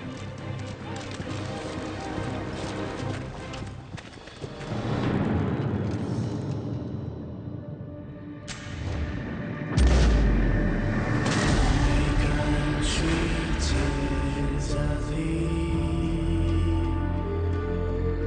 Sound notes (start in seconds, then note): 0.2 tense music; 9.7 shot booms